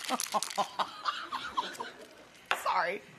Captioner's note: laughs